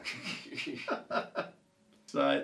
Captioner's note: laughs